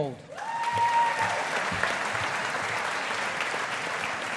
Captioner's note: audience applauding